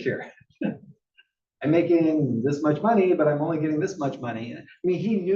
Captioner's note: laugh